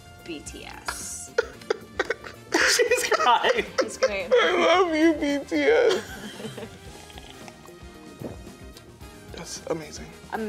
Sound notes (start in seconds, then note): 1.8 cries; 6.6 slurping lightly